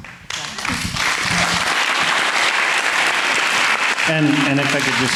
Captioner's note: audience clapping